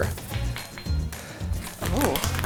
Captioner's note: spoon dinging